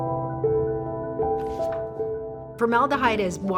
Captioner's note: page turning